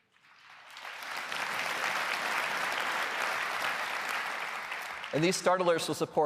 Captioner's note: applause